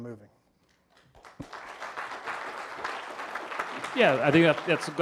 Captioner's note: audience applauding